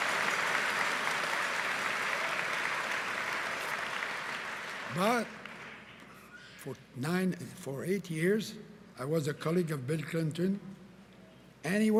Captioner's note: cheering and Applause